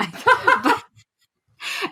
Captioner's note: laughs